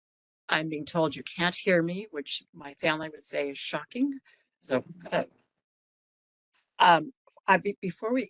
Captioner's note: laughing